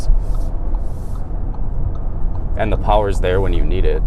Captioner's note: blinker pinging